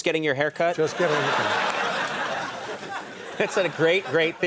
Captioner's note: audience laughing